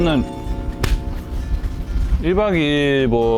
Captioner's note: scratching; slap